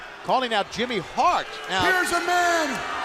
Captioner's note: crowd chatter